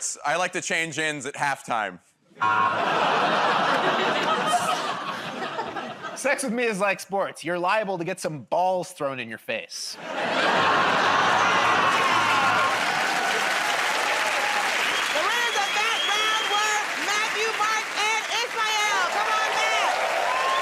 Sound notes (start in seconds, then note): 2.4 laughter, buzzer; 10.2 laughter, buzzing; 13.3 cheers and applause